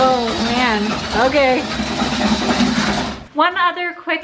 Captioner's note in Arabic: أصوات خلاط